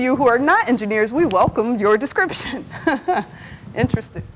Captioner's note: laughs